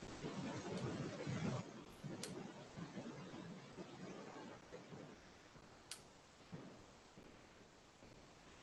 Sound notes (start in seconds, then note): 2.2 computer mouse clicking